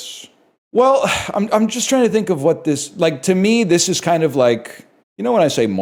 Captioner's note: sighs